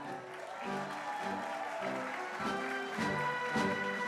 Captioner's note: crowd applauding